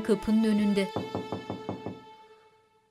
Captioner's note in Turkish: Kapı tıklama sesi